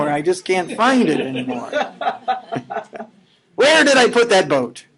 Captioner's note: laughing